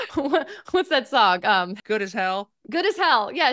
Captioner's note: laughs